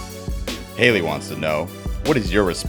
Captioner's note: voiceover